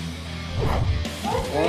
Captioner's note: woman screams